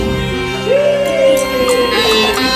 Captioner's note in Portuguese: grito